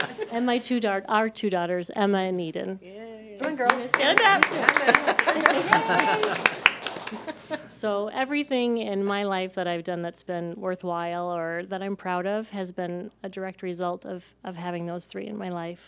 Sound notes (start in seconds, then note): 0.0 clapping and laughter; 5.5 laughter and clapping